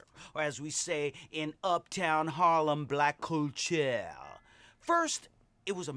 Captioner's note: mocks French accent